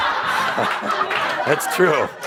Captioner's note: laughter